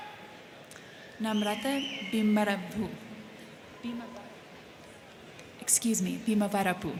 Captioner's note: crowd cheering